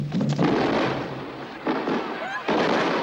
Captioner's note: explosions